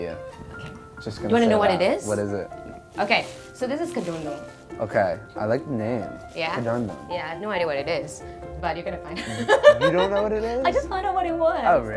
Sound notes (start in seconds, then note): 9.2 laughs